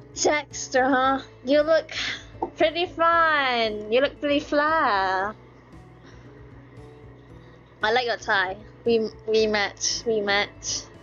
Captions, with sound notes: Jaxter, huh? You look *sigh* pretty fiiiine You look pretty fly I like your tie We match We match x2